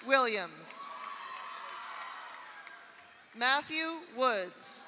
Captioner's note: audience cheers; audience applauds